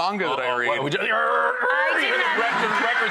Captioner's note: record scratching noises